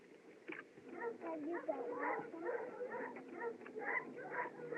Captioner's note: dog Barking